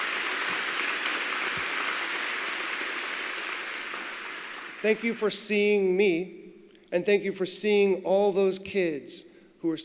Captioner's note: applause